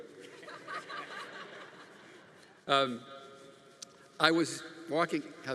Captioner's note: audience laughing